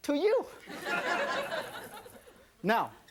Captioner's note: audience laughing